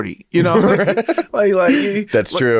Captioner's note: both laugh